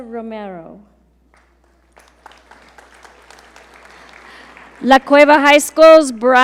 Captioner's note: audience applaud